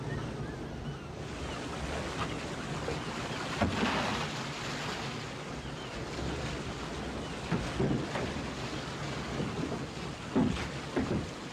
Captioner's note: Harry whistles; waves crashing; birds squawking; waves crashing